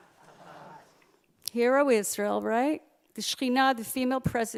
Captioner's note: Hebrew